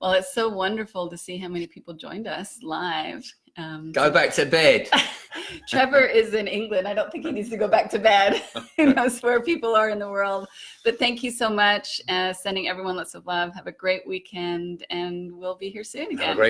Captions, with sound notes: Well, it's so wonderful to see how many people joined us live. - Go back to bed! - (laughs) Trevor is in England. I don't think he needs to go back to bed. (both laughing) That's where people are in the world, but thank you so much. Sending everyone lots of love, have a great weekend, and we'll be here soon again.